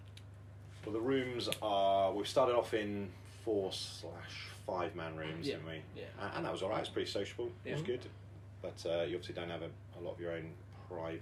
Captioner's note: laughter